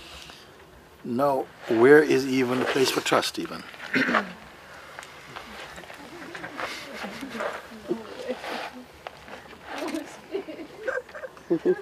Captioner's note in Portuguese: risos e choro